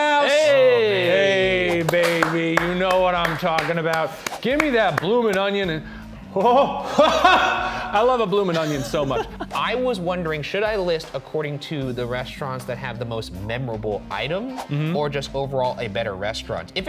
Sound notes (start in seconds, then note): 8.4 laughing